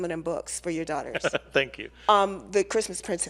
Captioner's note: laughs